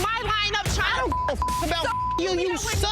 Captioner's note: beep